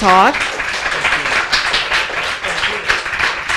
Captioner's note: applause